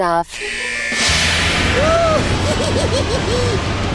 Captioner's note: evil laugh